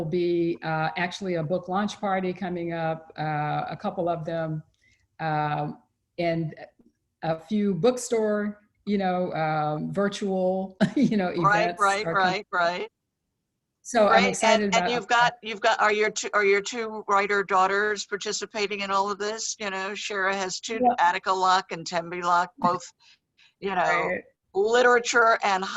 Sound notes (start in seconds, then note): 10.2 laughs